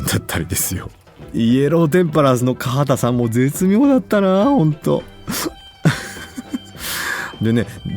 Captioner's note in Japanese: 笑い